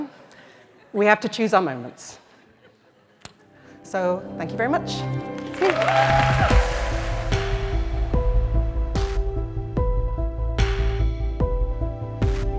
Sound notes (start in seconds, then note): 5.3 cheers and applause; 6.9 upbeat music